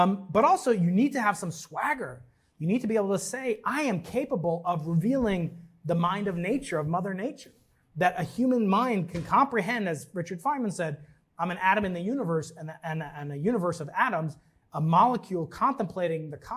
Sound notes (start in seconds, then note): none